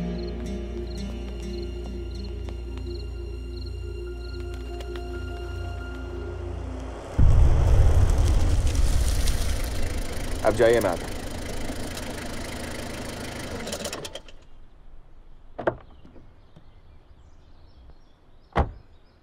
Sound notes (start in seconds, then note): 0.0 Footsteps; 11.5 Engine; 15.6 Door open